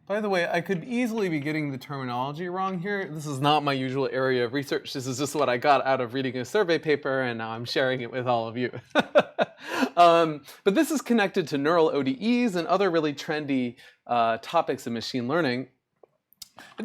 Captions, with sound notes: By the way, I could easily be getting the terminology wrong here. This is not my usual area of research. This is just what I got out of reading a survey paper. And now I'm sharing it with all of you. [LAUGHS] But this is connected to neural ODEs and other really trendy topics in machine learning.